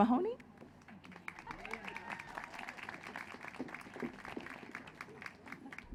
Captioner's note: applause